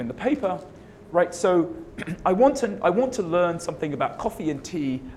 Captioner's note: cough